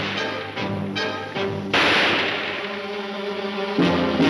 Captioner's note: gunshots banging